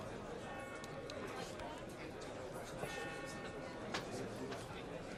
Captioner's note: church bell ringing